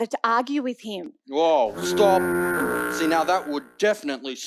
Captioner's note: honking